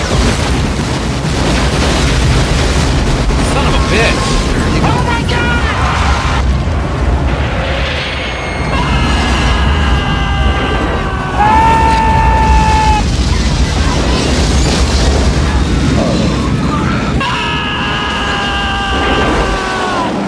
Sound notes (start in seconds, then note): 0.2 crashing; 8.4 faint female scream; 8.7 Michael J. Fox screams; 11.3 shouting; 16.7 yells